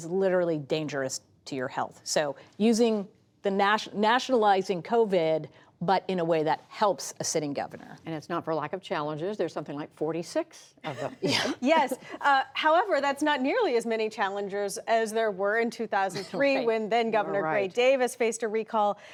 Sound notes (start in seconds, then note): 10.9 laughter